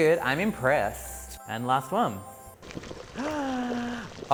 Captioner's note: sighs surprisingly